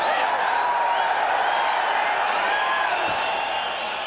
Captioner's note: crowd cheering